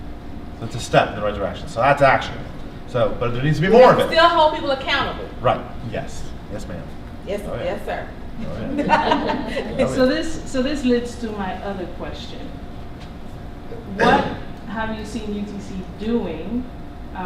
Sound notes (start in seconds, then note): 8.4 laughter